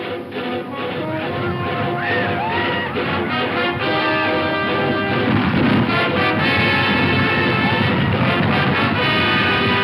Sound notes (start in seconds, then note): 1.5 Indians yell; 2.2 hooves pound; 7.6 dramatic music